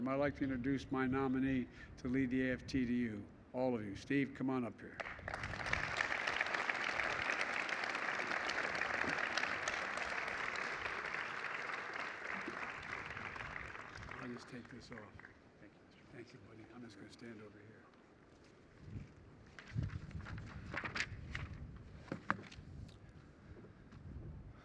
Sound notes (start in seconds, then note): 6.4 applause